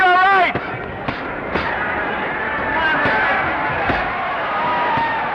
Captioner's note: crowd noise; punches popping; crowd noise